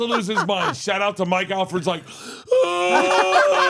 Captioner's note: imitating Mike crying; Steph and Elyse laughing